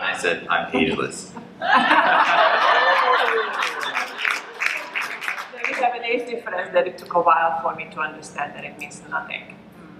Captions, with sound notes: - And I said I'm ageless. (laughter) - So we have an age difference that it took a while for me to understand that it means nothing.